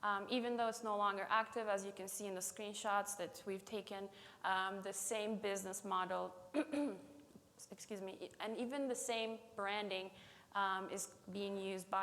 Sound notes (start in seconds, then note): 6.5 clears throat